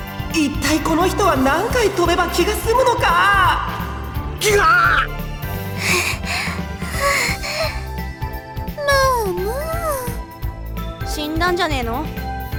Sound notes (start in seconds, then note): 4.3 huff; 4.4 pained groan